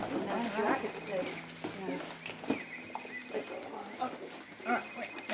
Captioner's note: phone ringing